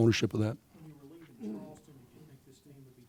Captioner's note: voiceover